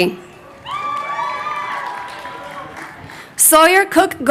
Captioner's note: crowd cheering